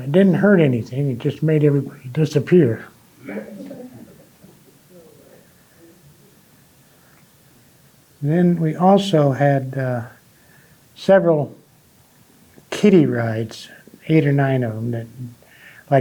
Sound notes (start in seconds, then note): 3.2 audience chuckling